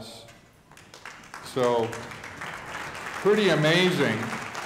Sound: audience applauding

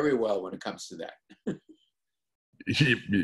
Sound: laughs

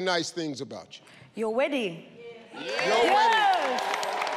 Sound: audience applauding

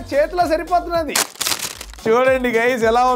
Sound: unwrapping

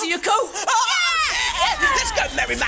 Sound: fireworks

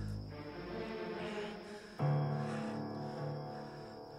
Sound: panting

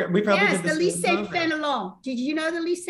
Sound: speaking French

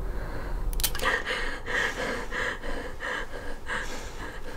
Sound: gun clicking

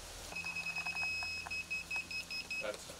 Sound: machine beeping

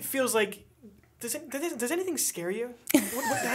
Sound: chuckle

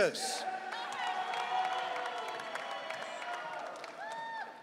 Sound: audience cheering

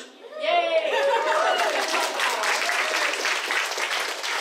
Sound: applause

